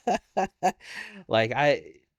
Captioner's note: laughing